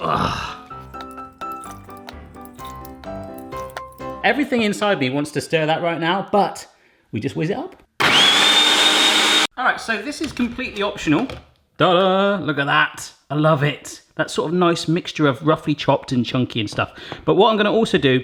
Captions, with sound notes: (grunting) (playful piano music) Everything inside me wants to stir that right now, but we just whiz it up! (whirring) All right, so this is completely optional. Ta-da! Look at that! I love it. That sort of nice mixture of roughly chopped and chunky and stuff, but what I'm gonna also do